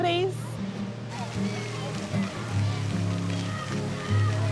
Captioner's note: children laugh, chatter